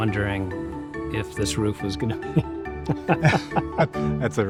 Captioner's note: laughing